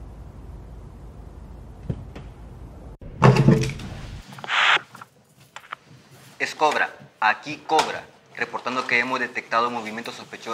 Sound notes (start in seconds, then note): 6.3 over radio